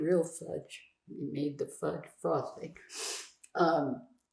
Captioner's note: sniffling